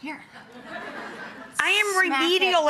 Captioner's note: audience laughing